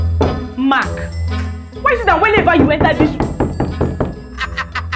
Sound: Mark knocking

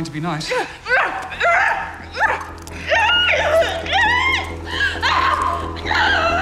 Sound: grunting, screaming

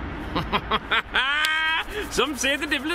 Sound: laughter

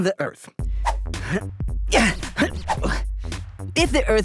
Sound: grunting

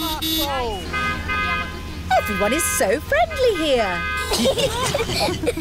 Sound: honking; italians honk back; all giggling

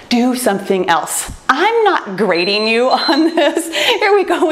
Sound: timer beeps

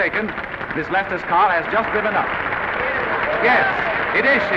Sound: applause continue

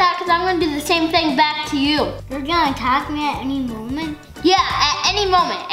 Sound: none

